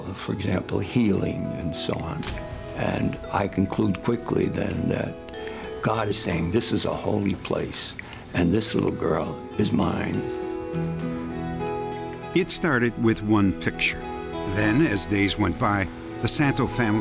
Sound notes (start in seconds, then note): none